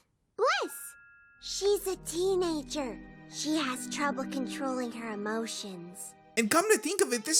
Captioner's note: whispers